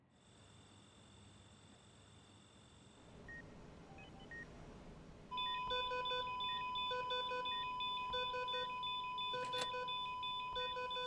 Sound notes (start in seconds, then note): 0.5 crickets chirping; 3.8 monitors beeping; 5.4 alarm sounding